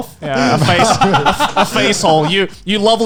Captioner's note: laughing